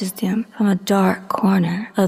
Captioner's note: none